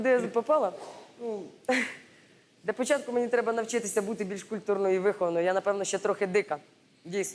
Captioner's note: chuckles